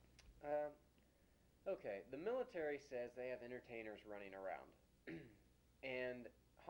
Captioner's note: clears throat